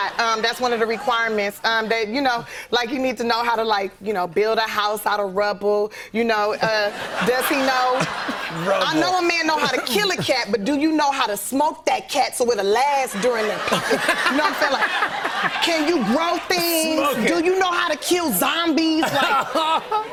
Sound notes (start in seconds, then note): 6.6 laughter